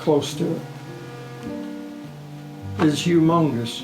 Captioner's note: ship horn blowing